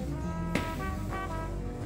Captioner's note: footsteps